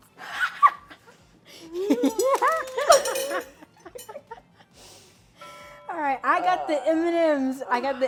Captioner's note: laughs